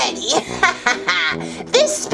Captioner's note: laughs